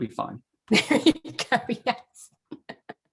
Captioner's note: laughs